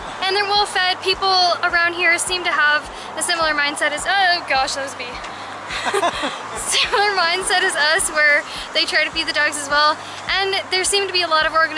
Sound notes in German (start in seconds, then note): 5.7 Gelächter